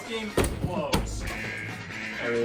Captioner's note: alarms ring